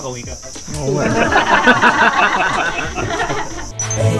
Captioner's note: laughs